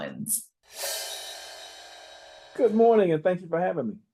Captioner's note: transition clanging